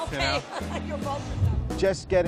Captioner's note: chuckles